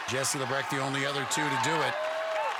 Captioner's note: cheering